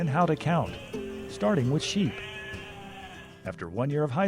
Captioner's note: sheep baaing